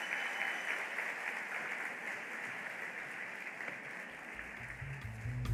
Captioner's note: applause